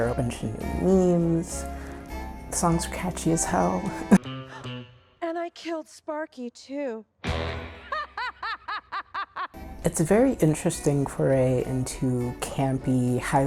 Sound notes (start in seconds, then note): 7.7 laughter